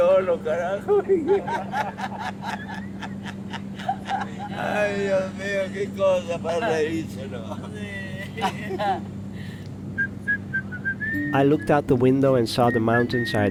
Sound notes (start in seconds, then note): 9.9 man whistling